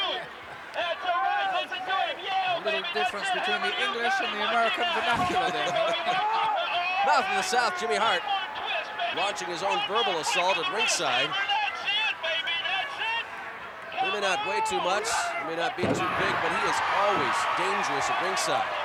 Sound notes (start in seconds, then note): 6.9 laugh